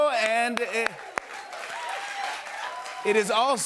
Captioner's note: cheers and applause